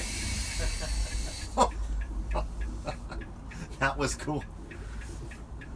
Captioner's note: both laugh